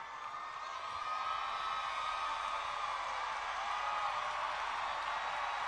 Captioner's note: cheering and clapping